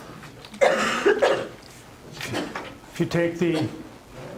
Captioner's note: coughing